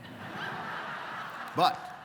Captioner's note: laughter